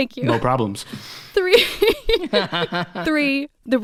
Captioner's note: laughing